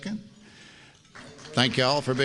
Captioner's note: applause